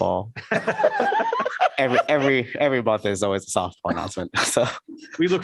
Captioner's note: laughter